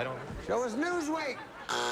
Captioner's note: buzzer